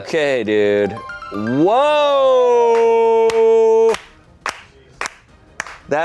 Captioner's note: applauds